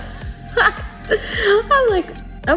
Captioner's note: laughs